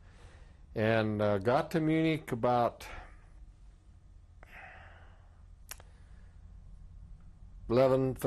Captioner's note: pauses for 3 seconds